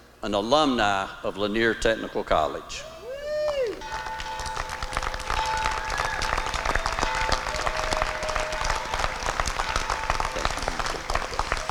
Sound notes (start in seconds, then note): 3.4 applause; 3.8 bell ringing